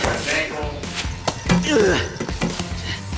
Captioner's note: groaning